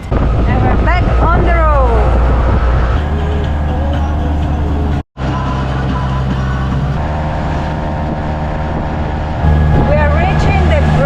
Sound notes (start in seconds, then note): 2.3 auto engine